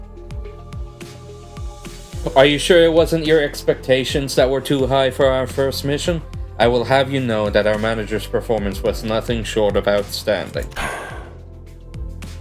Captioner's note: sigh